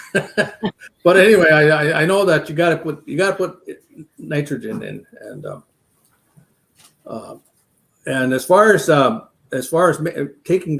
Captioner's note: laughs